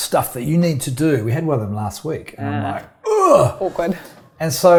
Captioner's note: groans